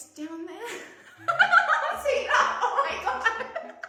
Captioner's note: laughs loudly